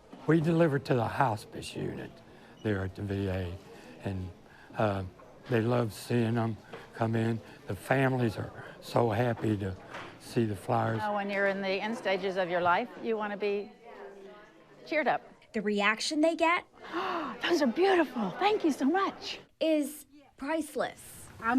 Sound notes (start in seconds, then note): 16.8 gasps